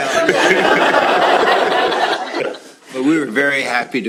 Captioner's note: laughter